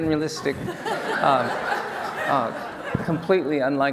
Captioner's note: laughing